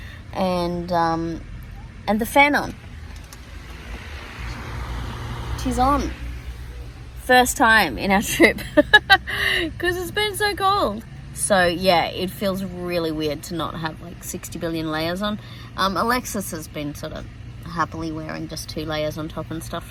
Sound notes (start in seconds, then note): 7.8 laughs